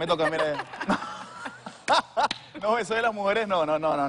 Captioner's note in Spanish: Risas